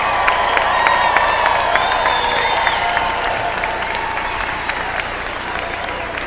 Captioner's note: applause